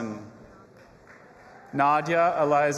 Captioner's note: audience applauding and cheering